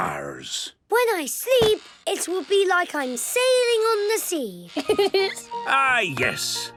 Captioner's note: laughing